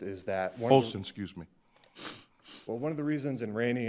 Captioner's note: sniffs